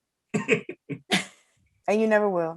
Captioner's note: Eric laughs